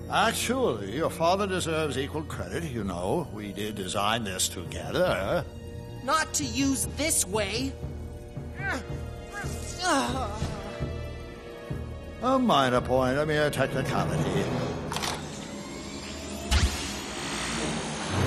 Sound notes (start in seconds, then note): 9.3 effort grunt; 16.1 eel zzt